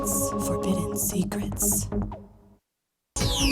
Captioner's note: lady whispering "secrets"; lady whispering "Forbidden Secrets"